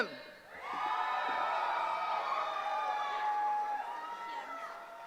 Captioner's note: cheering